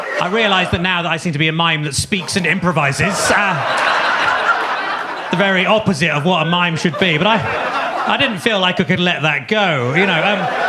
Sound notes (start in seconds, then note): 3.5 audience laughs; 7.6 audience laughs; 10.5 audience laughs